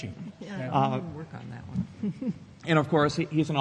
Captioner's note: chuckles